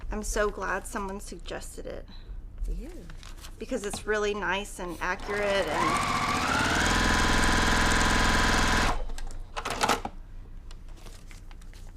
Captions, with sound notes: I'm so glad someone suggested it because it's really nice and accurate. (machine sewing)